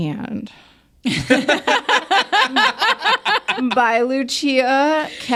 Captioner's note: speakers laugh